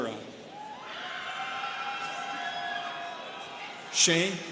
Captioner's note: students cheering